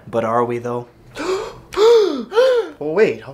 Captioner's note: gasp